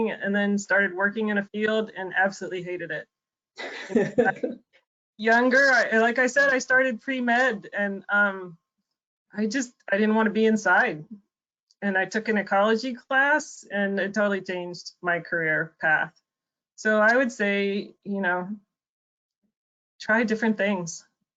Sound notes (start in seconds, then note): 3.6 women laugh